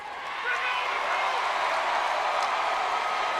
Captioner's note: crowd cheering